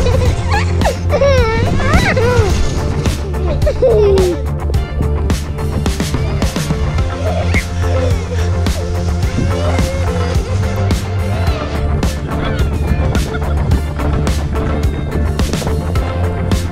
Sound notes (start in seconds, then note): 4.4 kids laugh